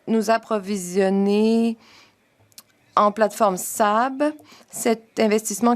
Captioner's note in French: voix de l'interprète